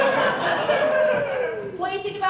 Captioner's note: audience Laughing